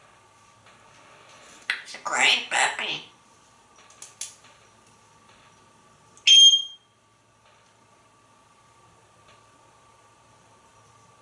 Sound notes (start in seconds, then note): 6.2 beep!